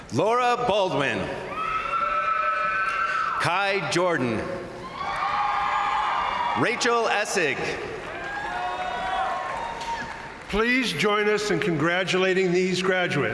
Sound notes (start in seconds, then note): 1.4 crowd cheering; 4.9 crowd applauding; 8.2 crowd cheering